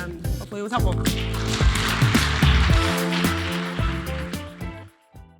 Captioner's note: audience applauding